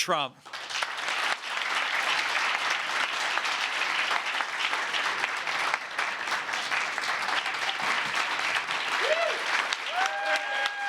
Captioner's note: applause